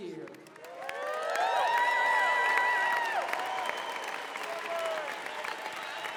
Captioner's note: applause, cheering